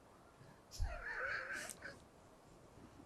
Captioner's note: laughing